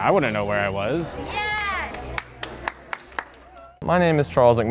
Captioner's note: clapping